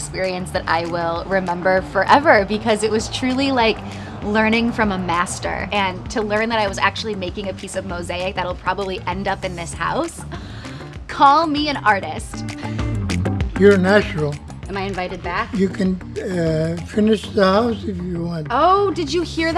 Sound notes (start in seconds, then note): 12.5 laughs